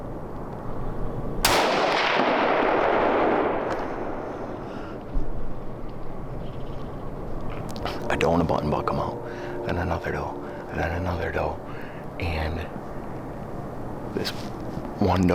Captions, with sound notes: (gunshot) I don't want a button block them out. And another doe and then another doe, and this one doe on my brother-in-law's property is old.